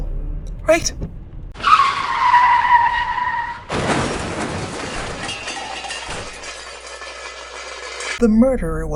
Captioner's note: sound of car screeching, then crash